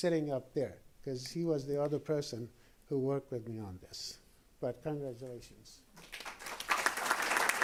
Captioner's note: applause